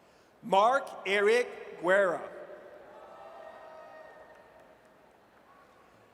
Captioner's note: audience cheers